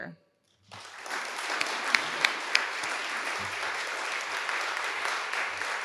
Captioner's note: everyone applauding